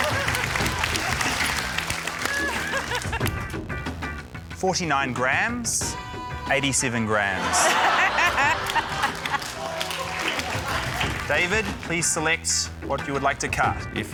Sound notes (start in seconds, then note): 7.4 laughter, scattered applause